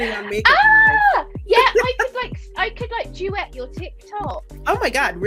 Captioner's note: screams